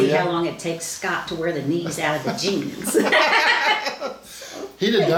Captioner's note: laughs